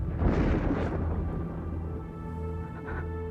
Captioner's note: terengah-engah